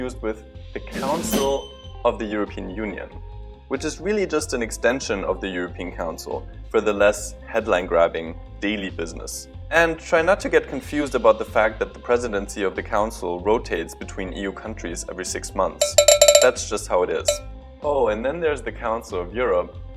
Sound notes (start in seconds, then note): 15.8 ding; 15.8 ding, ding, ding, ding, ding, ding